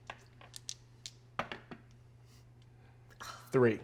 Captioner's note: dice rolling